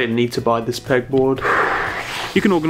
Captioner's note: sighs